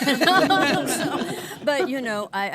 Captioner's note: both laughing